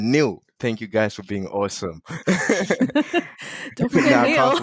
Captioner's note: laughing